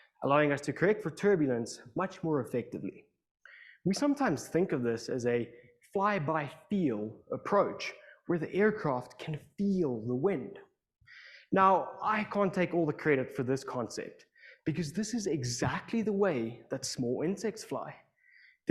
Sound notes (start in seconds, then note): none